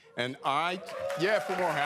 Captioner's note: cheering